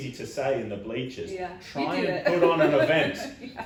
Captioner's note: laughs